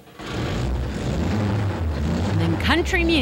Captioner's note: loud horrendous motor revving